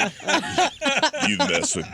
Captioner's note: laughing